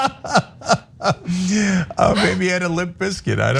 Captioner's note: laugh